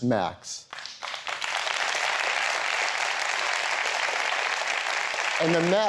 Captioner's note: applause